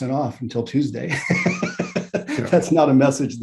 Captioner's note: laughs